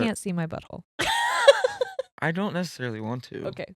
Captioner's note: laughing